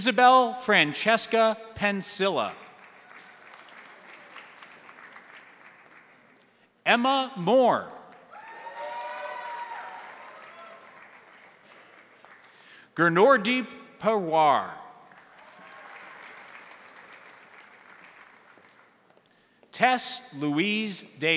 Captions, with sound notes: Isabel Francesca Pensilla. (crowd applauding) Emma Moore. (crowd applauding) (crowd cheering) Genordeep Powar. (crowd applauding) Tess Louise Davis.